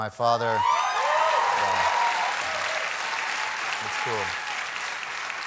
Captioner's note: applause